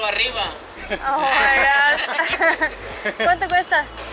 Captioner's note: laughter